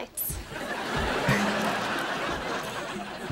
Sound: chuckles

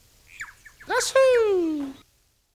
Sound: birds chirping

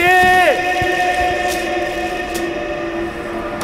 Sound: saw Sound

